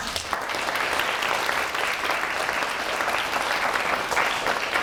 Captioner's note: audience applauds